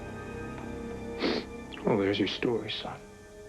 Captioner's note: sniffs